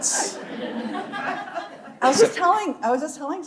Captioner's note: audience laughing